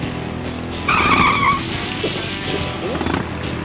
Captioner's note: tires squeal; water sprays; coin chimes as it's flicked